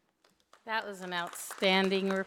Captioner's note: audience applauding